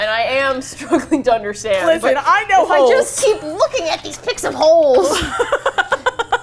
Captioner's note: laughs